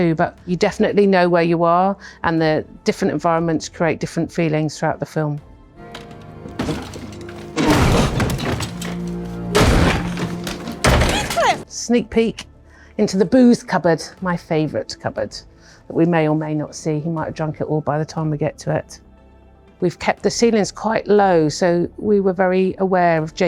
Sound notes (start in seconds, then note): 6.4 Heathcliff groaning; 7.5 wood thudding